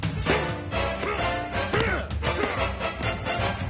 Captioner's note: both grunting